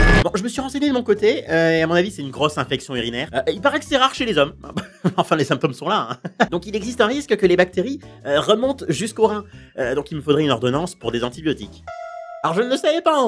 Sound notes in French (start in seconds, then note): 6.1 rires; 6.1 rire